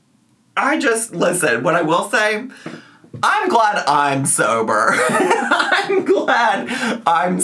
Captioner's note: laughs